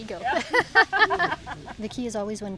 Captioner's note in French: rient